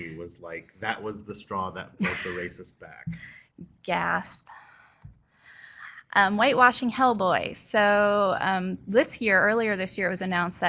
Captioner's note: gasp